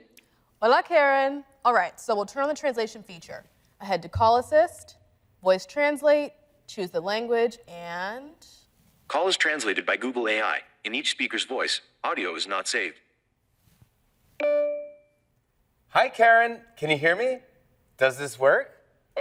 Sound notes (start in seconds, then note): 14.4 phone beeps; 18.9 foreign language